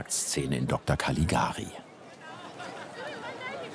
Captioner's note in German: Stadtlärm